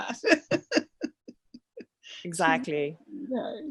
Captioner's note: laughs